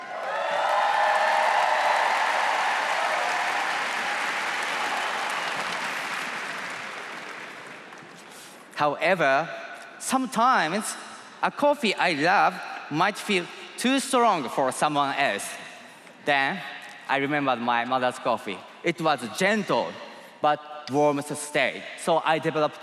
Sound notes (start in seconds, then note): 5.9 cheers and applause